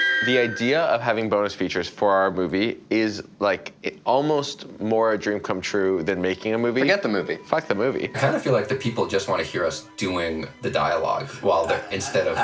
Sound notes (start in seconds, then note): 8.1 laughs; 11.2 laughs